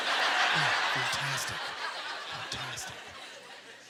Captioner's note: audience laughter